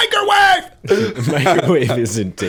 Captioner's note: laughter